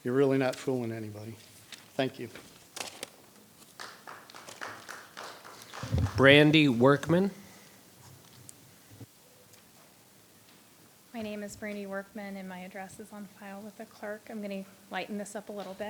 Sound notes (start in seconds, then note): 3.7 audience applauding